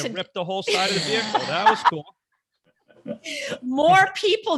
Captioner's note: laughs